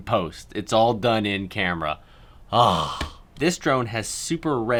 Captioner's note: sighs